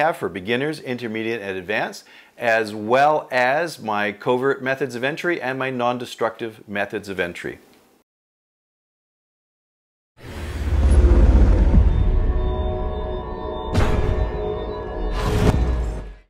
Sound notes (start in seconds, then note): 10.2 whooshing sound; 13.7 door slamming